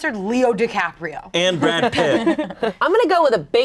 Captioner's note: group laughing